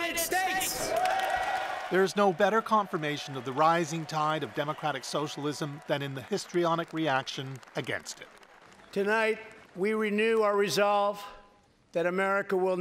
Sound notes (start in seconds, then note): 3.9 cheers and Applause